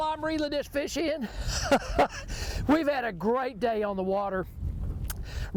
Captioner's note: laughs